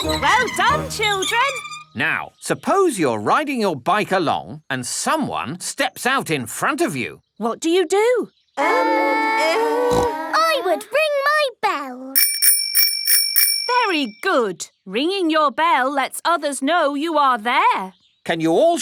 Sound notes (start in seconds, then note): 9.9 peppa snorts; 12.1 rings bell